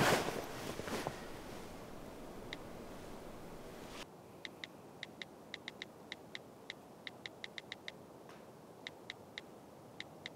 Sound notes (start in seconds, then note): 4.2 cell phone typing